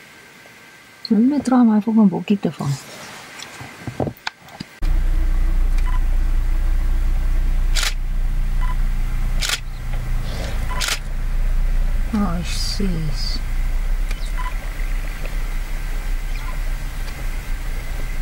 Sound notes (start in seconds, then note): 2.4 hippo hissing; 7.7 camera shutter; 10.6 camera shutter; 14.2 bodoop